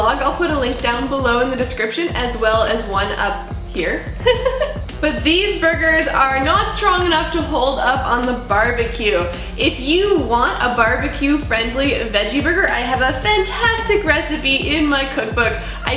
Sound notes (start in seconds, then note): 4.2 laughs